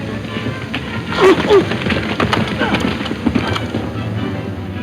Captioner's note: men groaning